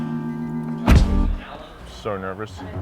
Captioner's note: car door closing